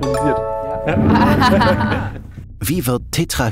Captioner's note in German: Gelächter